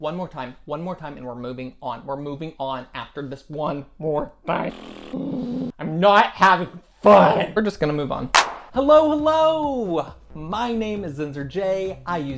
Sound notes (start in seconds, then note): 4.2 groans; 4.4 raspberry noise